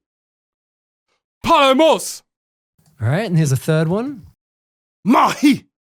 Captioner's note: man 2 speaking Greek in recording